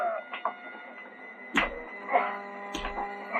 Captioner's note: punches and gasps